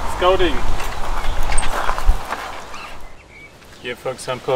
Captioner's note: birds chirping; air whooshing